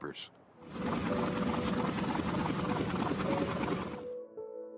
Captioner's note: printing press whirring; gentle music